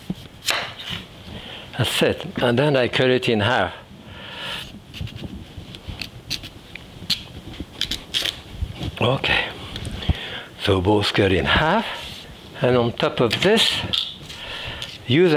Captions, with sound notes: (knife slicing) Okay, so both cut in half and on top of this, use a little knife here to go in,